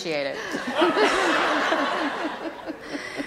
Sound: laughter

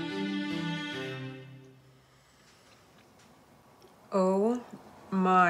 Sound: music stops

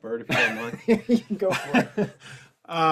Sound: laughs

